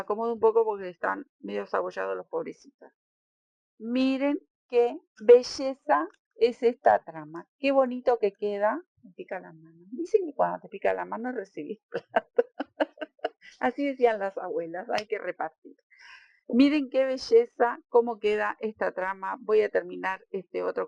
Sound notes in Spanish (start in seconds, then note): 11.9 risas